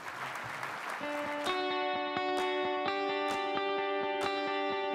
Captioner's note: applause